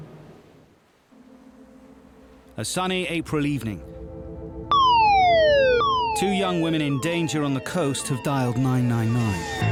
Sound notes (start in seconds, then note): 4.7 siren blaring